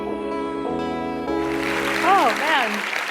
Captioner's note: applause